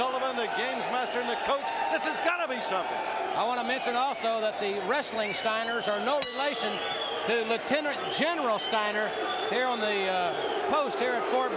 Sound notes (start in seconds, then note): 6.2 bell ringing